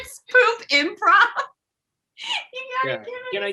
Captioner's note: laughs